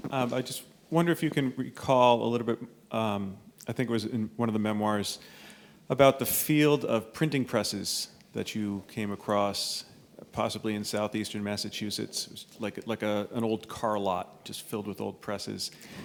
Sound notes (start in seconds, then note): none